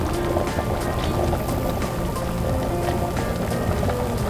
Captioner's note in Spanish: Chisporroteando